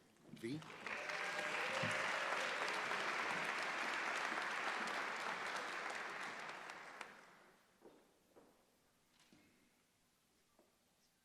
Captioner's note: applause